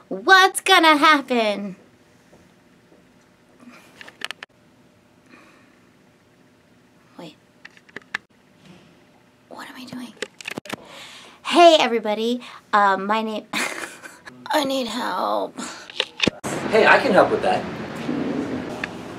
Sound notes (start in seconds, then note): 13.6 laughs